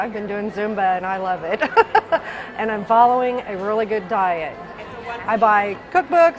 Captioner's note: laughs